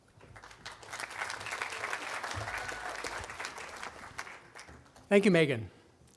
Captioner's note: audience applauding